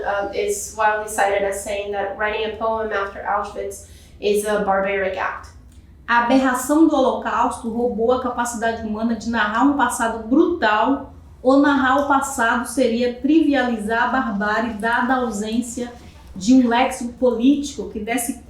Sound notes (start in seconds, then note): 6.7 speaking portuguese